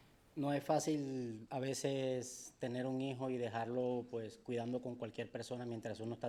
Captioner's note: speaking in foreign language